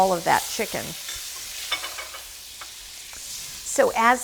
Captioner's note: pan sizzling